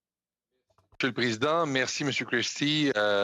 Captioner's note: speaking French